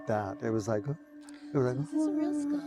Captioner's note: humming